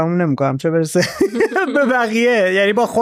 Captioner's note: laughs